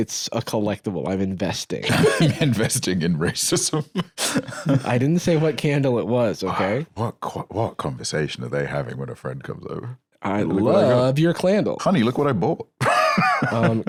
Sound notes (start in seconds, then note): 1.8 laughs; 12.8 laughs